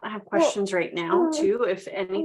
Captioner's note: baby cooing